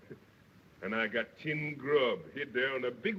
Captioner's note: none